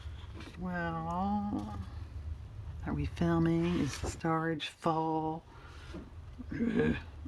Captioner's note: laughs